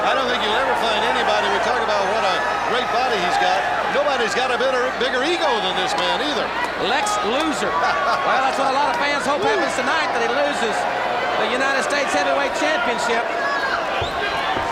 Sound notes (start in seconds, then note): 7.9 laughs